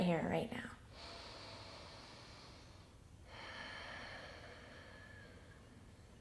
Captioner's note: breathing deeply